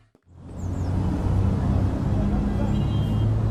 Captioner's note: city Traffic Sounds